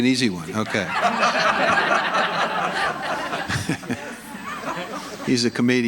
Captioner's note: audience laughing